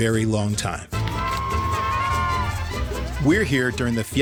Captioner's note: crowd cheering